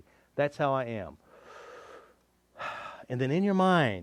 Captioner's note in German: Tiefer Atemzug